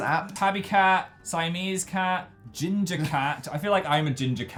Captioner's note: chuckles